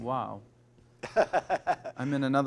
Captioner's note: laughs